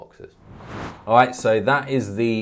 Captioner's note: whooshing